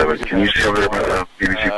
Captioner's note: radio Chatter